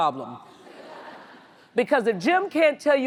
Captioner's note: audience laughs